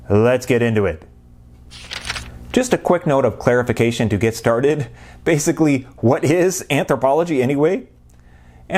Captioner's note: page turning